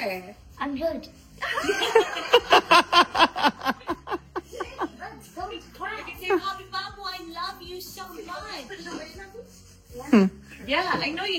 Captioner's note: loud laughter